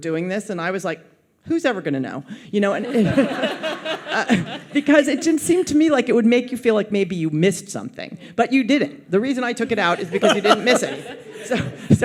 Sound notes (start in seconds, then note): 2.8 audience laughs